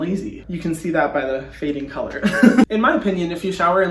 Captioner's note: laughing